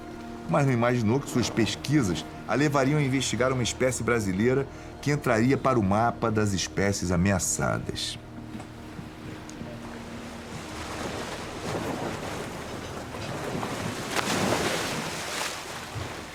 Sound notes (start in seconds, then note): 8.4 waves hitting the boat